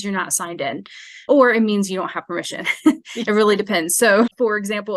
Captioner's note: chuckles